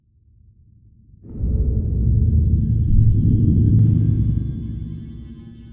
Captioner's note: deep booming sound